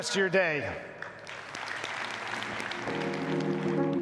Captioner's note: audience applauds; soft music